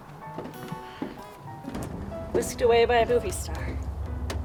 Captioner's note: sighs